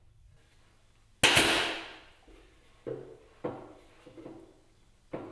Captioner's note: nailer banging